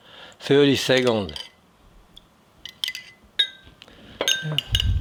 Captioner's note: spoon clanging